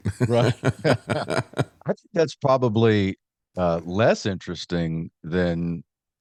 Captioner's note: laughs